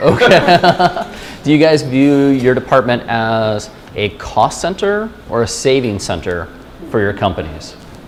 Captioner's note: chuckle